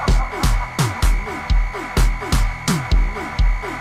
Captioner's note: laughing